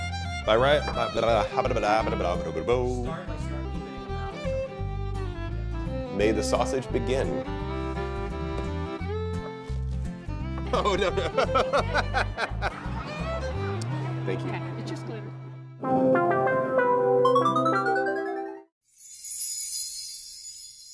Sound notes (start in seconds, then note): 2.5 voiceover; 10.6 laughs; 15.8 electronic music; 18.6 chime flourish